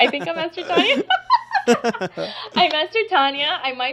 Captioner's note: both laughing